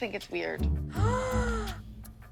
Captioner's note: gasping